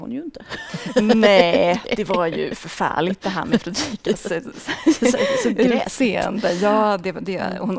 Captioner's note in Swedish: skratt